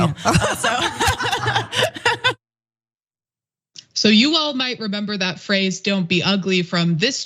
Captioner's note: laugh